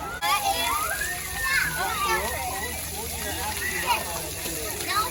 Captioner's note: kids playing in spray fountains